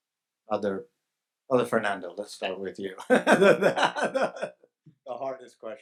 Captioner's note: laughs